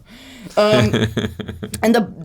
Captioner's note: laughs